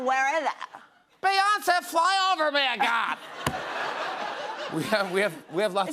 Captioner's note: laughter